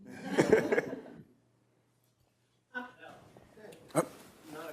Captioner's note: audience laughing